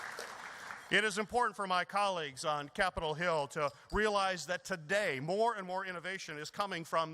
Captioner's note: applause